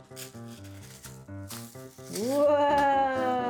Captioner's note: rocks rattling